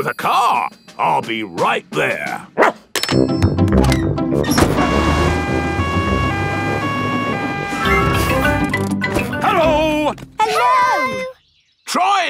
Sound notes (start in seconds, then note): 4.5 siren wailing